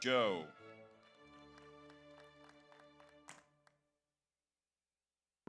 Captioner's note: audience applauds